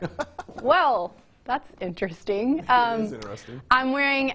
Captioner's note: laughs loudly